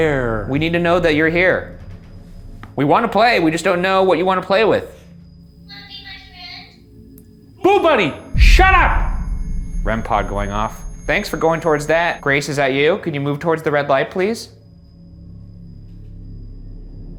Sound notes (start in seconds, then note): 8.3 REM-Pod beeping; 14.8 suspenseful music